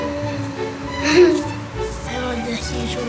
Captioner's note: laughs